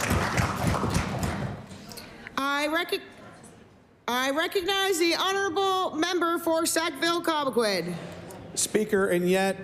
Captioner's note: applause